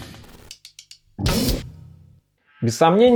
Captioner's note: confused reverberation